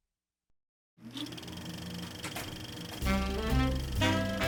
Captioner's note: film reel clicks; upbeat 30s music